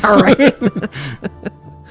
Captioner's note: laughs